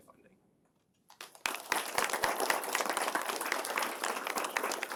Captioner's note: applause